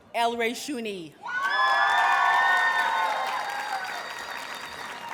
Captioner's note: audience cheers and applauds